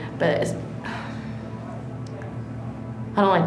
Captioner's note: sighs